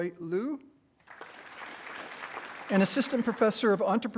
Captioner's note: attendees applauding